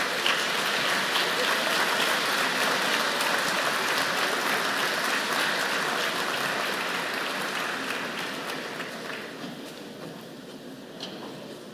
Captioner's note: applause